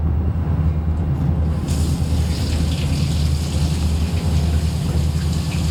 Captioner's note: water flowing from faucet